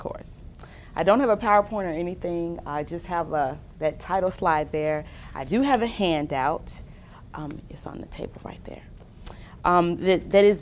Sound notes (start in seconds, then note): none